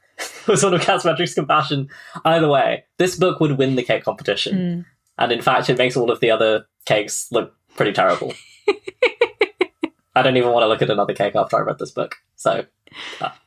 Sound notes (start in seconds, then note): 7.8 laughs; 10.4 laughing